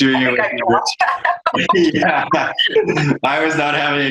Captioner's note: laughs